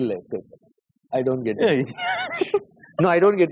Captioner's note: laughs